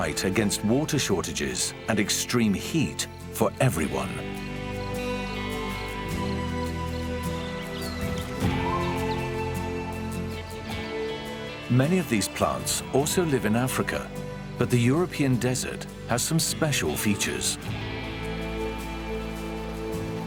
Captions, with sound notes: against water shortages and extreme heat for everyone. [birds and insects chirp] Many of these plants also live in Africa, but the European desert has some special features.